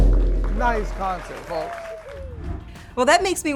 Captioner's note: crowd cheering